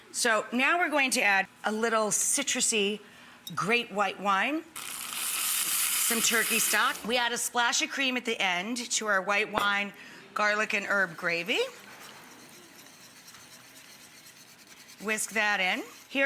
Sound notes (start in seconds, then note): 13.4 whisk stirring